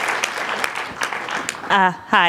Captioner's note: applause